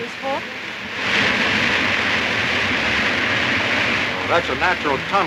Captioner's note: water crashing